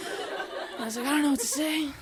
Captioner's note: audience laughing